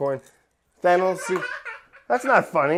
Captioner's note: laughing